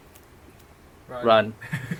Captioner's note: laughter